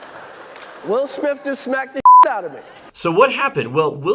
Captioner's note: beep